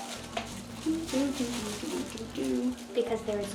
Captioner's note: humming